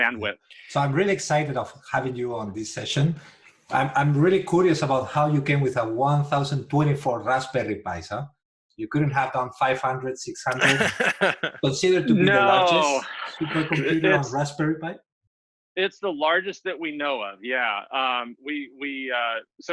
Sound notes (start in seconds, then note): 10.5 laughter